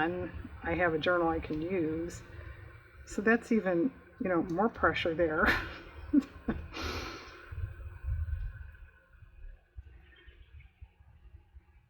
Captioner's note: laughs